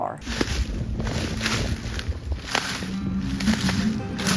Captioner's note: leaves crunching